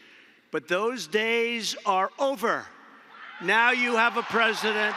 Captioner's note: applause